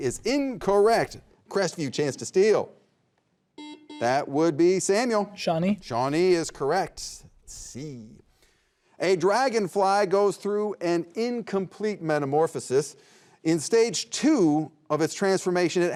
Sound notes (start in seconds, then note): 3.6 buzzer beeping